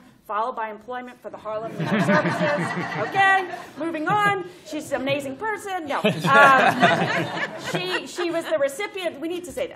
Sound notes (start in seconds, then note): 6.0 laughter